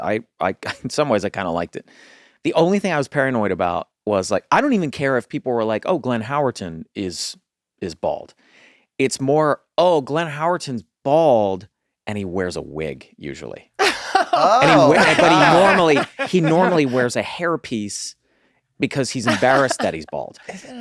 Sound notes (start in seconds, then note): 13.8 group laughing